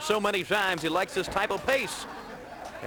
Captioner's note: crowd cheering; crowd chatter